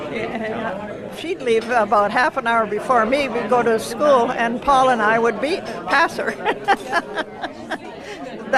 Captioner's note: laughs